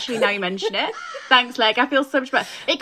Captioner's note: crow cawing